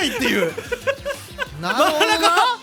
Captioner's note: giggle